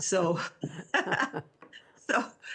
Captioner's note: both laughing